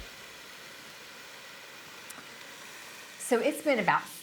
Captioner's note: pot sizzling